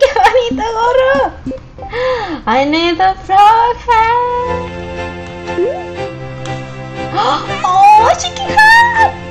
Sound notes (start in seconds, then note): 0.0 laughs; 1.2 gasps; 6.8 gasps